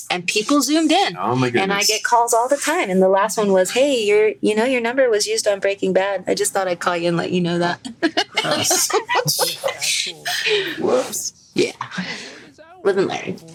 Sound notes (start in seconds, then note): 7.9 all laugh